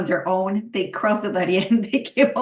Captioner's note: laughs